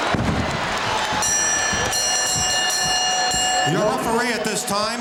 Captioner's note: bell ringing